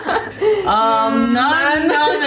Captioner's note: laughing